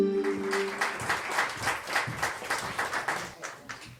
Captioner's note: clapping